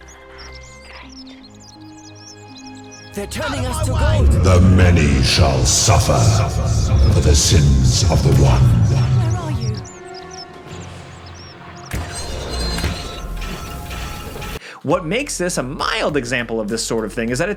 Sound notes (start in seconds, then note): 4.7 thunderous Voice; 11.8 magic whines